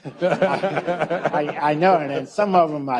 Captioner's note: audience laughs